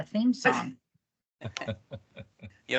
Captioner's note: people chuckling